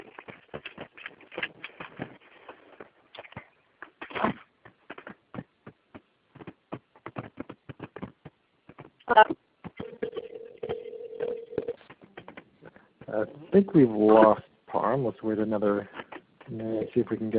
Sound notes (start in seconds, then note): 1.4 audio stops